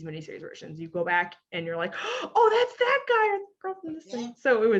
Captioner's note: gasps